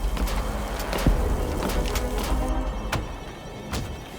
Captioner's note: footsteps clanging